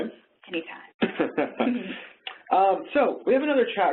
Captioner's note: both laugh